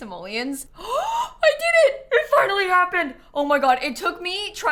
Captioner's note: gasps